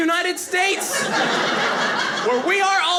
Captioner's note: audience laughing